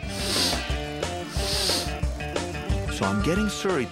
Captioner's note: sniffing